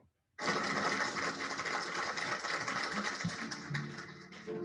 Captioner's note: applause sound effects